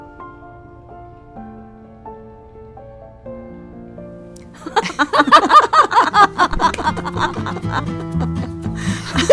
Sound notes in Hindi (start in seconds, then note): 4.5 हंसी